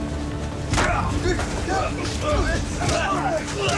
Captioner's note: men shouting